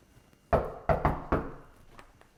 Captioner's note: knock, knock